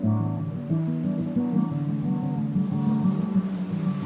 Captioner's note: wind blowing